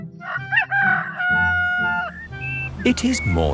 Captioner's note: rooster crowing